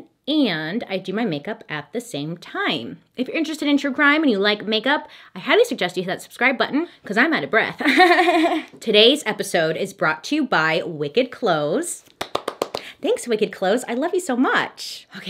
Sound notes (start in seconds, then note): 7.9 laughs; 12.1 gently claps